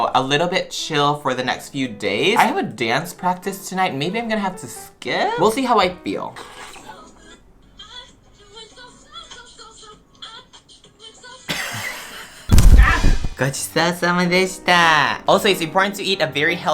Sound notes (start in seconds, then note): 14.3 speaks Japanese